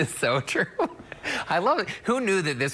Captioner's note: laughter